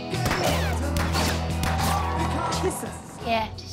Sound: lighthearted pop-rock music; gunfire popping

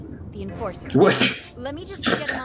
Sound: laughs

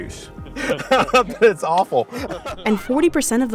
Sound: laughing

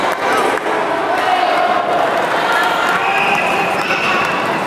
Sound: applause

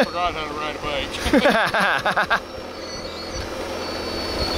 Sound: laughing

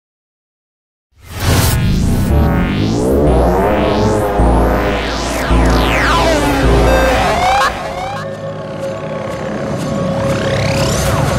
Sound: sound of science fiction

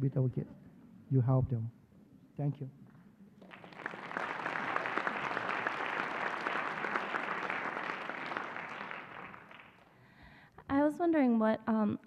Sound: applause

